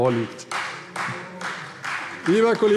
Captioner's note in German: Vereinzelter Beifall CDU